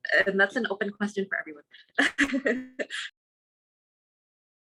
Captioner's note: laughs